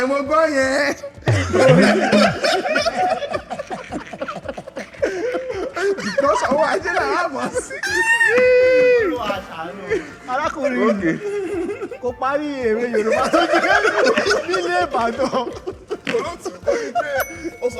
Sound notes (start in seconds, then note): 1.2 everyone laughs; 15.8 everyone laughs